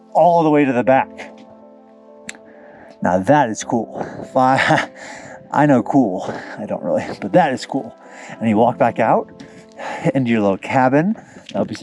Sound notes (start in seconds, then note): 3.9 chuckles